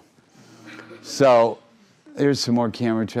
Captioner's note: crowd laughing